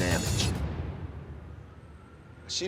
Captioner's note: crickets chirping